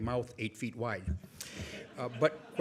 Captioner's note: audience laughs